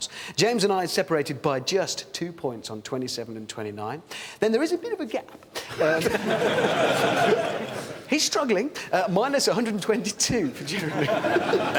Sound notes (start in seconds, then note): 5.6 laughter